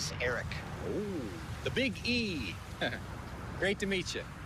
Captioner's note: chuckles